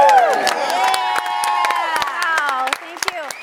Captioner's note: audience claps and cheers